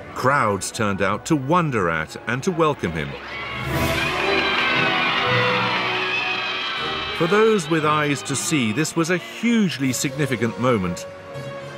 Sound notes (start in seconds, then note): 3.7 cheering